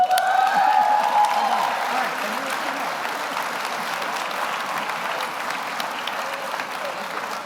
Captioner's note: audience cheers; audience applauds